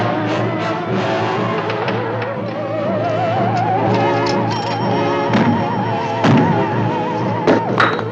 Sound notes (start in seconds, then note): 4.0 pounding